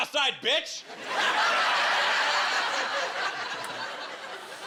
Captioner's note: laughter